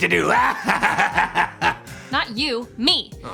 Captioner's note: laughs